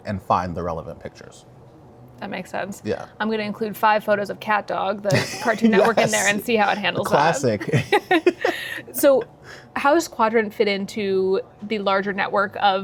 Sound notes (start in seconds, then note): 5.1 laughing; 8.7 both laugh